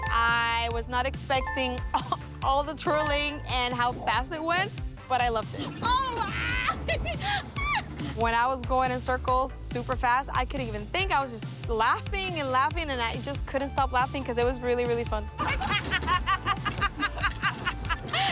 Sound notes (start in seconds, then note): 5.6 laughs; 15.4 both laughing